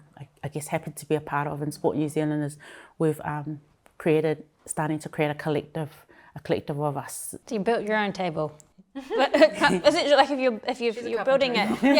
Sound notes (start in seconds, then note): 9.0 chuckling